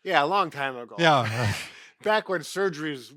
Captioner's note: both laugh